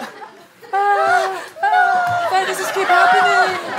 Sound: yelling softly

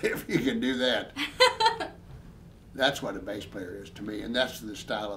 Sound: both laughing

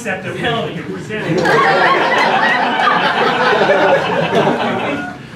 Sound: laughter

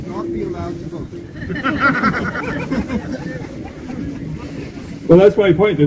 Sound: laughter

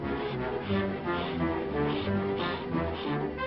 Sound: panting

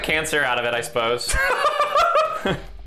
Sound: laughing

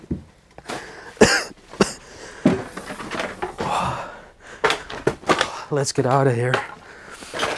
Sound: coughs

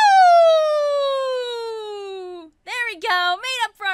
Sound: cheers

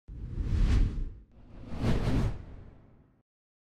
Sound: logo whooshing

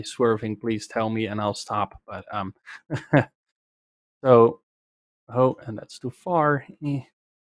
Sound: laughs

